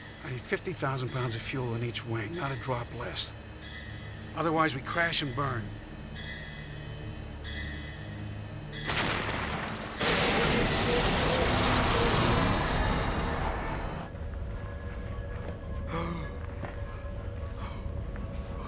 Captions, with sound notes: I NEED 50,000 POUNDS OF FUEL IN EACH WING. NOT A DROP LESS. OTHERWISE, WE CRASH AND BURN. [ Crumpling, Crashing ] [ Groaning, Panting ]